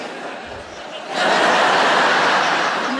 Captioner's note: laughter